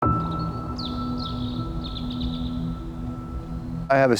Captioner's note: inspiring music; birdsong